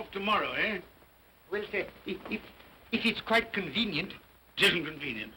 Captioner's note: stammering